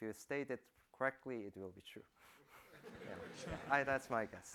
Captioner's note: laughter